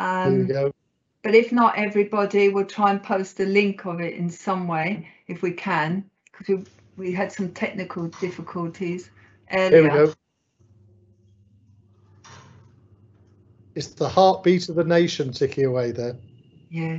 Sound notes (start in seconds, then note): 11.9 clock ticking